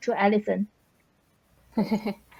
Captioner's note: laughs